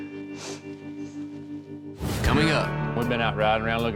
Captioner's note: sniffles